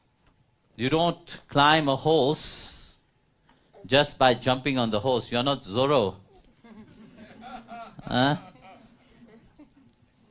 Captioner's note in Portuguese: risos